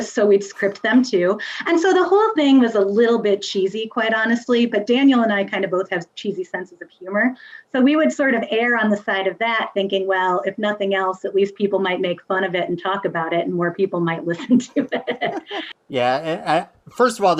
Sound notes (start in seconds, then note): 14.3 laughs